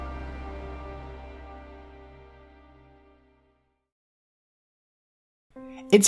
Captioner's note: none